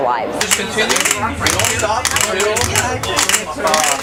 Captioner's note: cracking